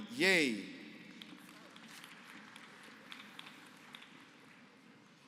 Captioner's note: applause